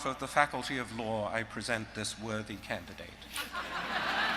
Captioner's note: laughter